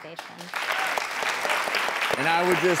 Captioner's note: audience clapping